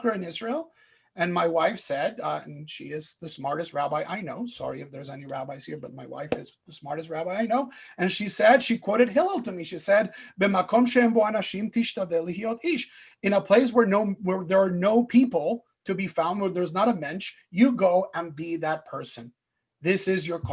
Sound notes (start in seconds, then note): 12.2 Hebrew